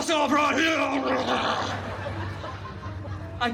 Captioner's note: guests laughing